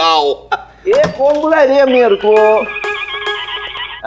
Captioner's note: Door opens